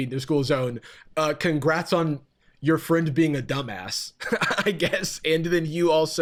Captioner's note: laughs